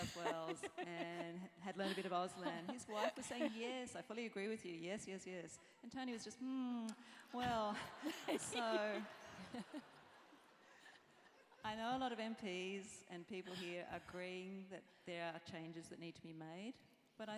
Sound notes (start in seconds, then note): 7.9 laugh